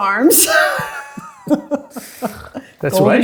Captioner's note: both laughing